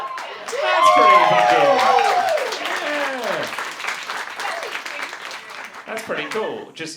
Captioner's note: audience cheering